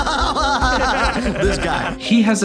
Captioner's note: laughing too much, methinks